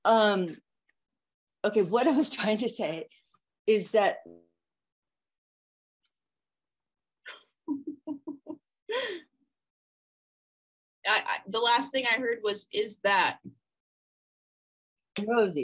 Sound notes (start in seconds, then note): 7.7 laughing